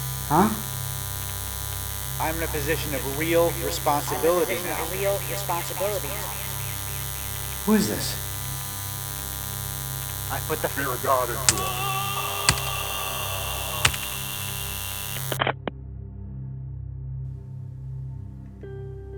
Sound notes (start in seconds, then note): 2.0 echoed; 13.4 sound of beating